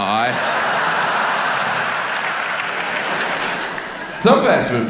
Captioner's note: audience laughs